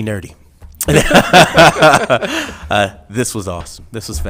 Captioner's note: laughing